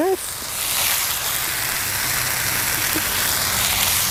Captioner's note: food sizzling